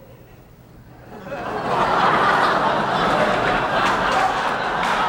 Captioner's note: audience laughing